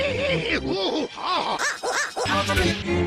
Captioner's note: higher pitched